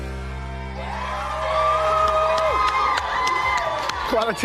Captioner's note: cheering